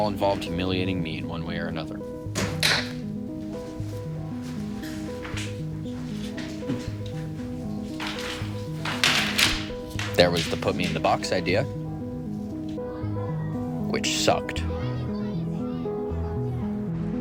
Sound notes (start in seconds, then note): 2.5 chair thuds; 7.6 room divider clattering; 14.9 students chattering